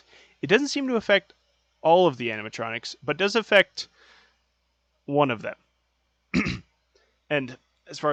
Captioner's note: clears throat